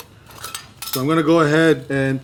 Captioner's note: ricer clanking